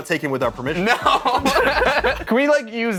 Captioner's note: laughter